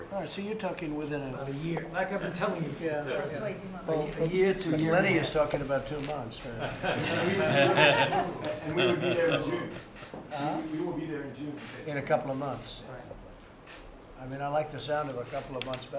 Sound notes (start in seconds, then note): 6.6 laughter